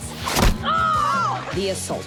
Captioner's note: yells